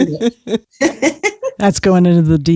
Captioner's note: laughs